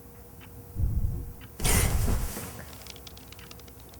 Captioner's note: banging